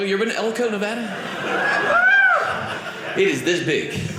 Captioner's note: audience cheering